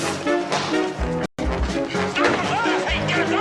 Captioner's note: men shouting